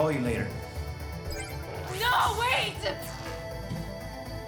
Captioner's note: disconnect chime